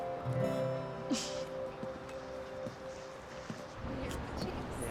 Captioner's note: Bea chuckles